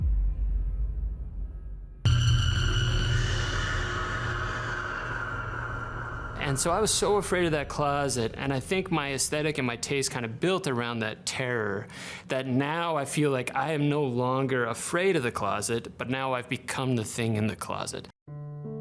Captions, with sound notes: (shriek reverberating) And so I was so afraid of that closet. And I think my aesthetic and my taste kind of built around that terror that now I feel like I am no longer afraid of the closet. But now I've become the thing in the closet.